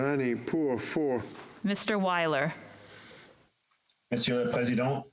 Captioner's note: speaking French